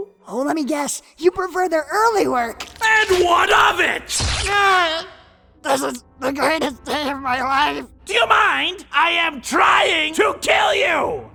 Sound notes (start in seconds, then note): 4.2 Kirito grunts in pain